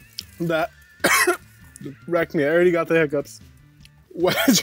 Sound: coughs

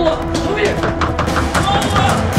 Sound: fist pounding

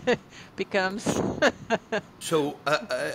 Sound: laughing

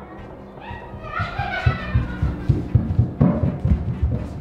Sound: laughs

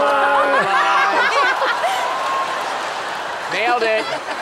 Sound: laughter

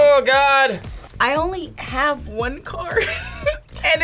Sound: laughs

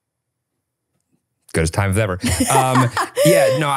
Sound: laughs

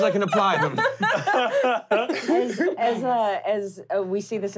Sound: laughing

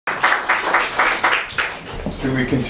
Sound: applause

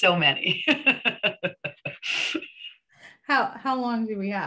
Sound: laughs

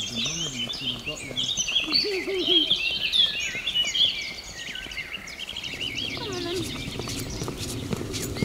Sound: birds tweeting

